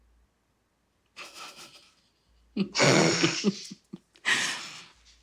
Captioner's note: both laughing